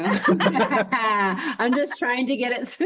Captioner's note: both laugh